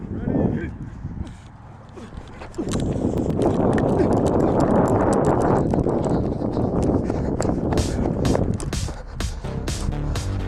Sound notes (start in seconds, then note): 1.3 breathes; 2.1 wind gushes; 7.8 upbeat music